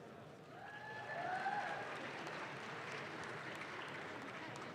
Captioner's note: audience claps